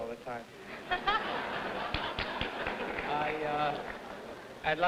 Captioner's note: audience laughing